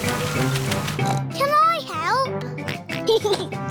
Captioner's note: oinks; oinks and giggles